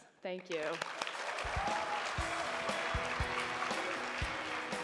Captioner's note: crowd applauding